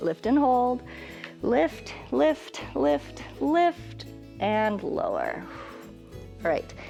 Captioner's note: exhales